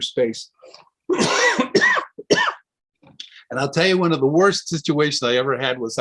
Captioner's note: coughs